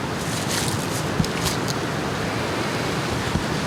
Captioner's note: wind gusting